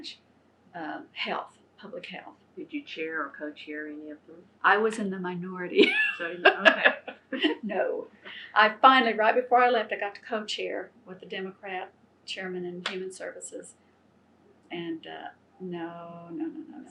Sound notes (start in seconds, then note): 5.8 laughs